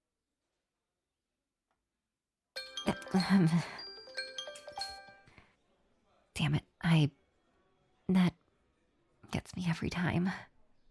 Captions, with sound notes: [Phone Alarm goes off] Dammit, I- that gets me every time.